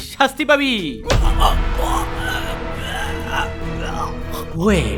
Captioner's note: struggling sound